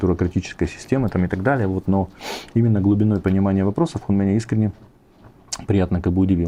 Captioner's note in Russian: фыркает